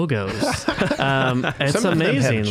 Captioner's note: all laughing